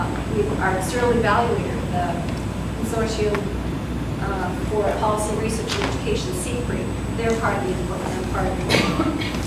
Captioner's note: coughing